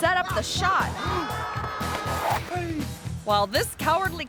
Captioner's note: actor screaming